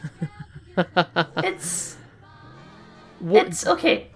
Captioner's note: chuckle